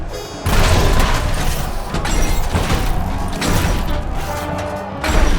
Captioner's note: crowd clamors; robots whir, clang